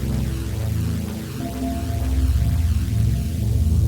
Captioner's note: bell chimes